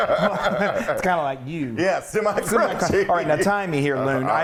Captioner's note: laugh